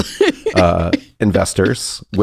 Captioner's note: laughs